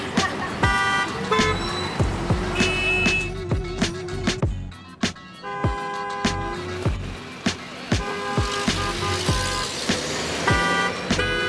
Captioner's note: beeping